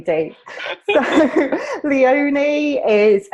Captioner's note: laughter